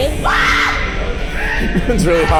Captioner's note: screams